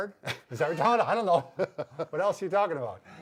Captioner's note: laughs